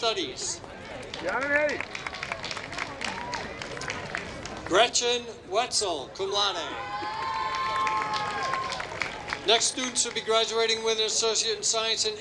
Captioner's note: applause